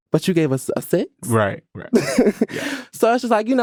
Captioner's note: laughing